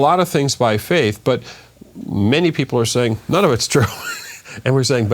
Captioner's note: laughs